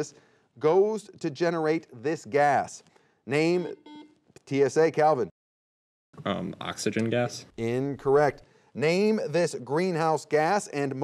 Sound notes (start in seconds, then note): 3.6 buzzer beeping